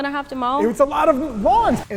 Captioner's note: air whooshes